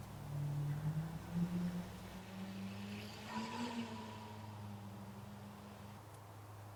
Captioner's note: sounds of a drone taking off